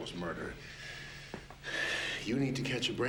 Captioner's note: sighing